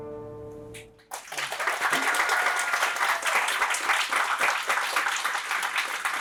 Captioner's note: applause